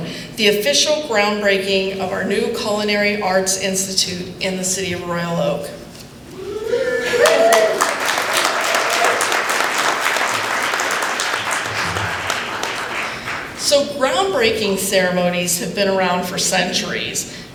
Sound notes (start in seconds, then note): 7.0 applause